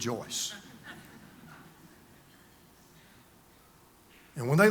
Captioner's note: congregation laughs